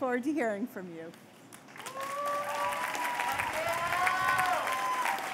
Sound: cheers and applause

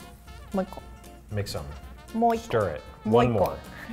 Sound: speaks in foreign language

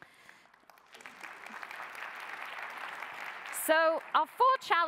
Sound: applause

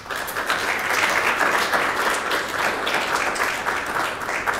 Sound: audience clapping

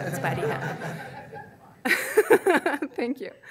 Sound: audience laughing

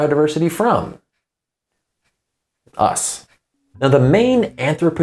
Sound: beat

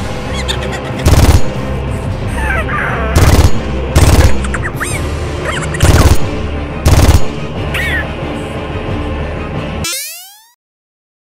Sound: Wrecking Ball laughing and squeaking

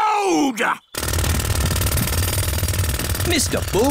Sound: drilling

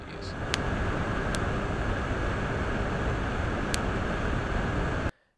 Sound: cracking & popping sounds

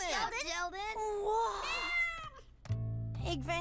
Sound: meowing

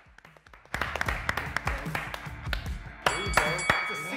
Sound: clapping

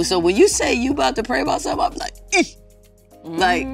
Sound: grunts

